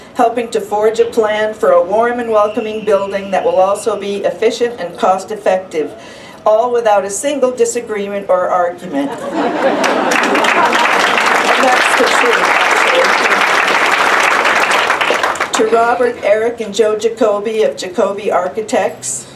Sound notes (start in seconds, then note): 9.0 laughter; 9.7 applause